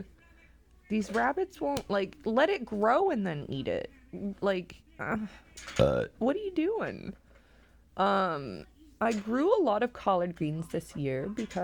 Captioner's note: burps; burp; burps; cough; laughing